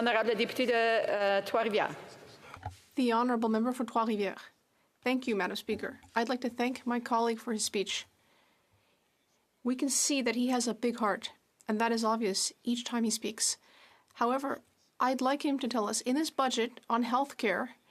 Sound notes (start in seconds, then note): 4.8 speaking French